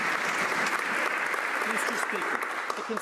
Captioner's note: some Applause